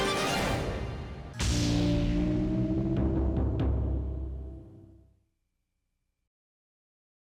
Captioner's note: gentle music; logo whooshes